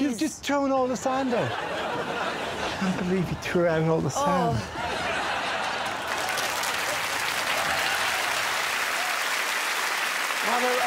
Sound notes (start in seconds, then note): 7.5 applause